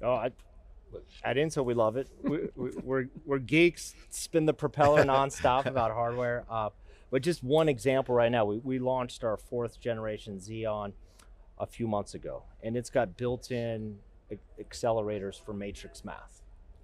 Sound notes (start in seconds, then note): 2.0 chuckling